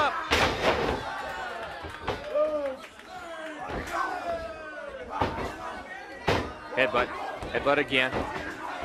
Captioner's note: crowd chatter